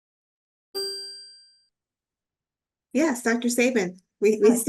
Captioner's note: bell ringing